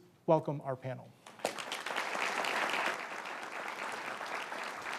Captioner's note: audience applauds